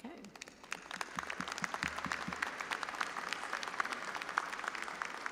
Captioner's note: audience applauding